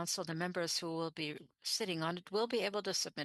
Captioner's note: speaking French